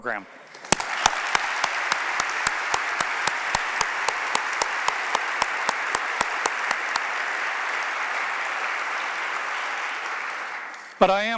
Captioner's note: applause